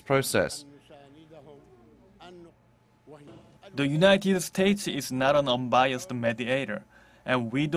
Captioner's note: Arabic